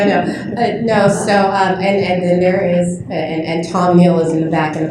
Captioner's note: laughter